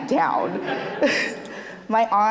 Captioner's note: laughs